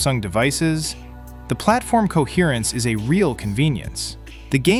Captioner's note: thoughtful